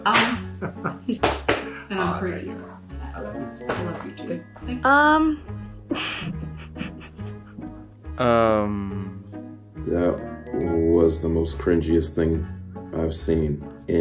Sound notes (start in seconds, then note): 5.9 laughs